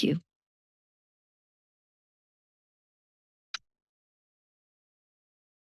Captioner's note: silence